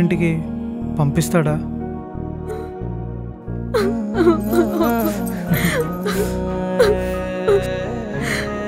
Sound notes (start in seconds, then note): 4.1 whining